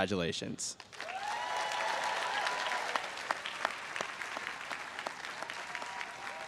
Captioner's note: everyone cheers and applauds